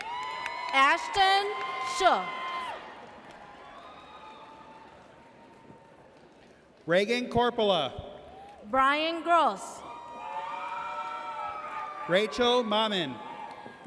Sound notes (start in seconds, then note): 0.0 audience cheers